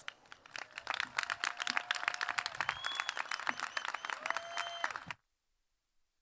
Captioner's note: applause